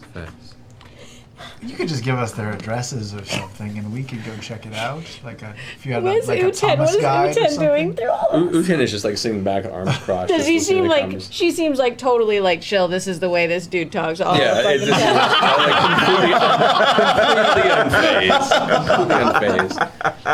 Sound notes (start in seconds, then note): 14.4 laughing